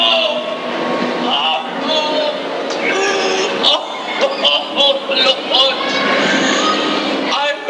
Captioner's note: sobbing